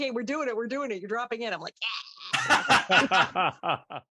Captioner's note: laughter